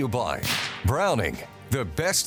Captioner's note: gun firing